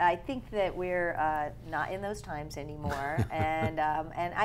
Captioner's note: laughing